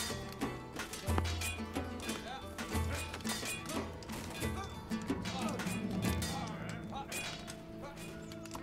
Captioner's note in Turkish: Kılıç sesleri